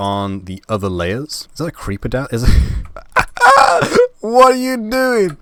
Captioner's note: laugh